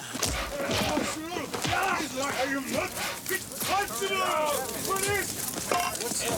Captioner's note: smacking and punching; men yelling